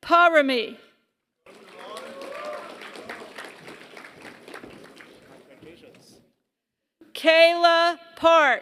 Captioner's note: applause